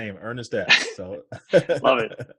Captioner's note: laughs